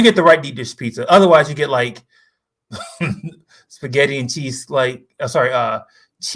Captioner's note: laughs